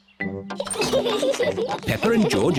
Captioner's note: all giggle